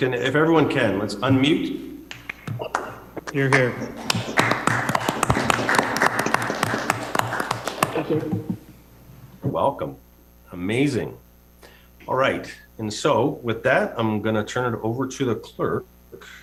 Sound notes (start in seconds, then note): 4.8 people clapping